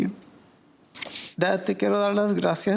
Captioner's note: sniffles